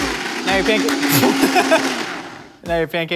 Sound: laughs

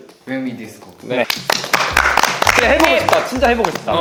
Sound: applause

